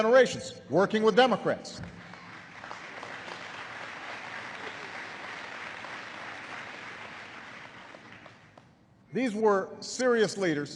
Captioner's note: applause